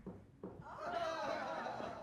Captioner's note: footsteps thudding